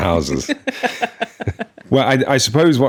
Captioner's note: laughing